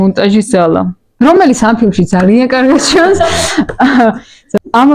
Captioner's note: audience laugh